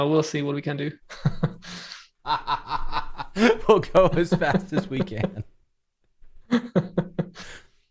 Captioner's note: laughs